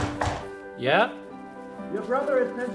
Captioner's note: knocks at the door